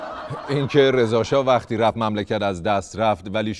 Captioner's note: laughter